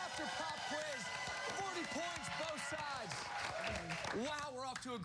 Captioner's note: cheers and applause